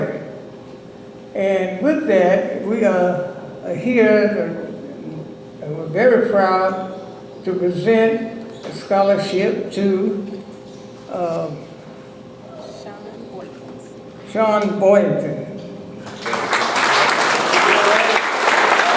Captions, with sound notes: And with that we are here, and are very proud to present the scholarship to- - Shaun Boykins. - Shaun Boykins. (audience applauds)